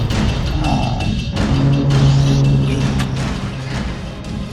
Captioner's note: bomb exploding; glass breaks; man sighing